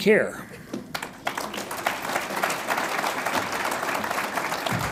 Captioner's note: audience applauds